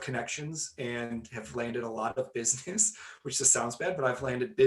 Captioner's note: laughing